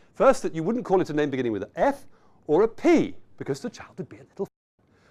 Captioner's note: whispers